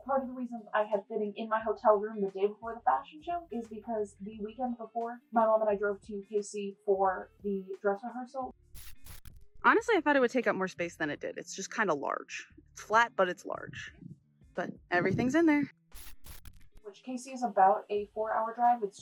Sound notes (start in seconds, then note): 8.7 glitch sound; 15.9 glitch sound